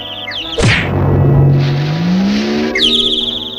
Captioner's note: smack!; splash!